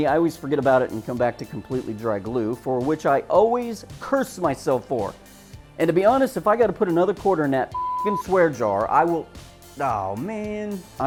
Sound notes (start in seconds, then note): 7.7 beep